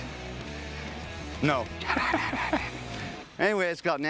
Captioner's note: laughs